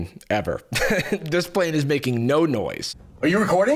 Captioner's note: laughs